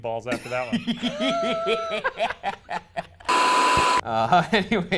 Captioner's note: both laughing